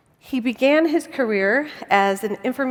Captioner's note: none